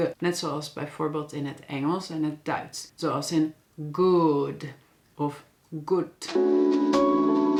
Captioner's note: German